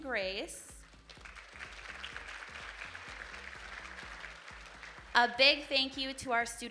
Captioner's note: audience applauding